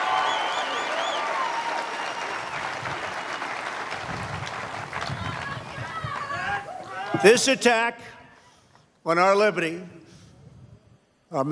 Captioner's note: applause